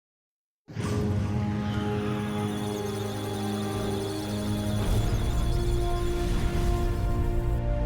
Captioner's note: electronic sounds data; musical tones